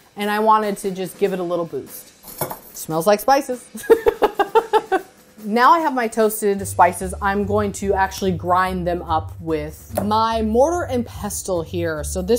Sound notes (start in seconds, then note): 3.8 laughs